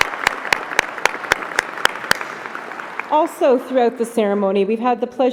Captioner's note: applause